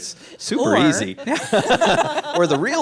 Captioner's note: all laugh